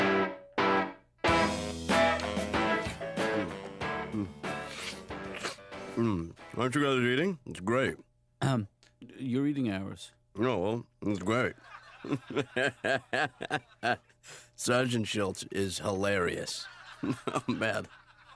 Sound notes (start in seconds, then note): 11.5 laughter on tv; 13.3 McGuirk laughs